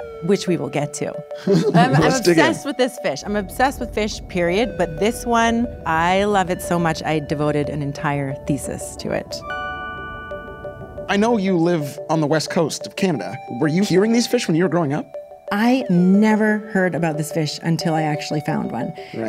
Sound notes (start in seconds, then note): 9.3 bell ringing